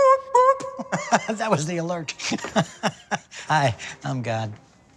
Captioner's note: laughs